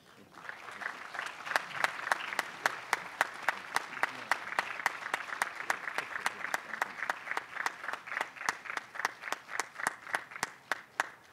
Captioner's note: applause